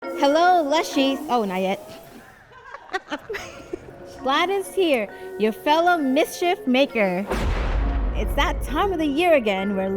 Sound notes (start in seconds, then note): 2.0 people laughing; 6.4 dramatic music